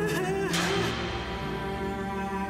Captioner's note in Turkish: Kapı kapanır